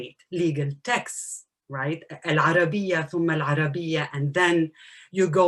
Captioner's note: non-enlgish speech